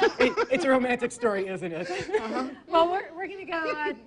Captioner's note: laughing